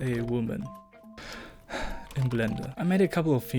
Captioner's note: disappointed noises